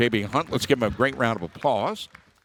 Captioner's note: people clapping